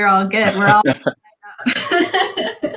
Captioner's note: panelists laughing